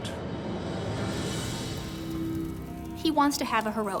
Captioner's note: fire crackles